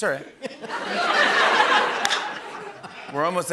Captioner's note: laughter